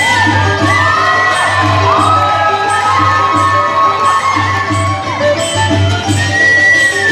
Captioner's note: cheering